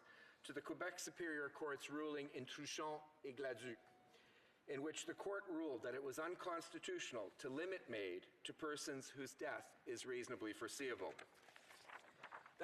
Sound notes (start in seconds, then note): 8.6 speaking French